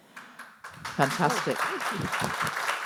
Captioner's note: audience applauding